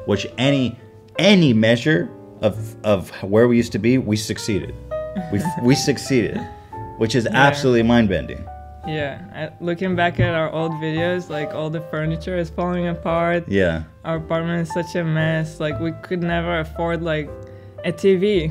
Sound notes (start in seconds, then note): 5.1 laughs